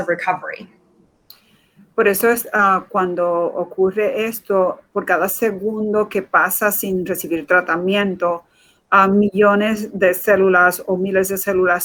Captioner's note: speaking in Foreign Language